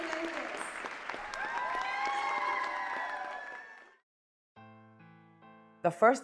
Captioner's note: audience cheering and clapping